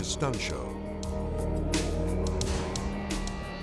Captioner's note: car engines whirring